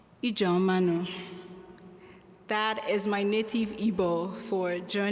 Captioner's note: foreign language